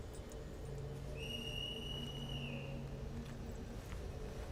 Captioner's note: whistle blows